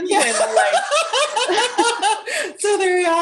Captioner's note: laughter